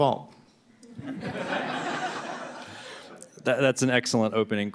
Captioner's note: laughter